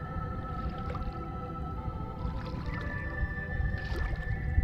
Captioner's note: intense music; water swishing; intense music